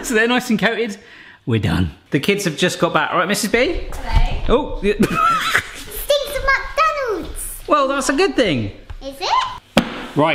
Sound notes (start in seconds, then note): 5.0 laughs